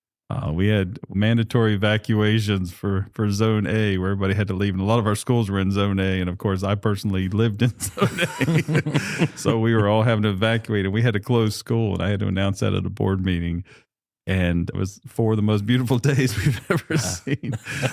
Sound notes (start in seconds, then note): 7.8 laughter